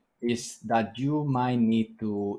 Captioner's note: none